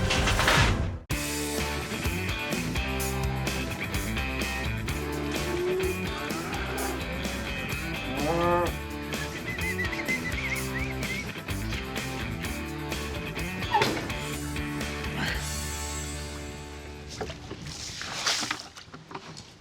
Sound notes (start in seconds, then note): 5.0 cattle moo; 9.0 whistling